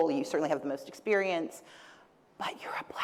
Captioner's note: whispers